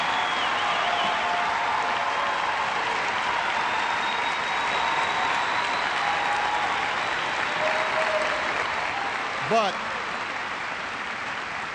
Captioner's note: cheers and applause